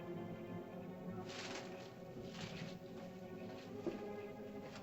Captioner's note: ominous music; bushes rustle; ominous music